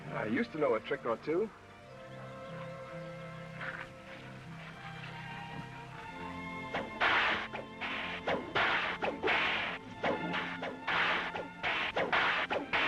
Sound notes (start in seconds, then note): 6.7 cracking whip